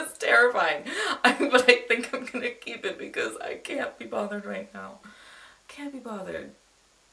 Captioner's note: laughs; inhales